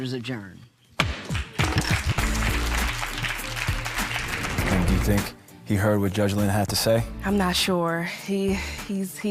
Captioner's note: applause